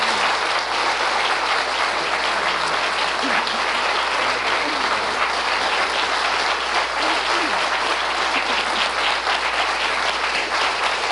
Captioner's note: applause